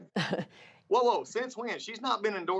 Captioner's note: laughter